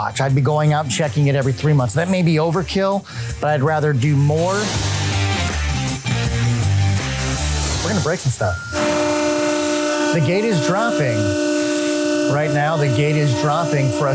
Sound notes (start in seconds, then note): 4.7 upbeat music; 8.7 machine whirring